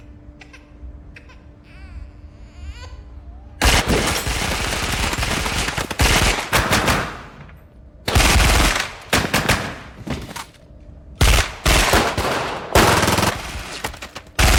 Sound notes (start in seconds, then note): 1.0 baby crying; 3.6 gun firing; 7.0 guns firing; 11.2 guns firing